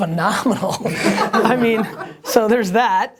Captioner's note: laughter